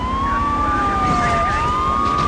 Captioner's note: sirens wailing